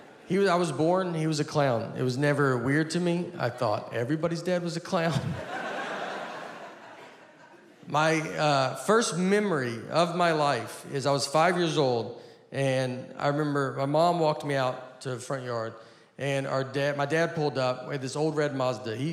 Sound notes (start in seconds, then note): 5.1 audience laughing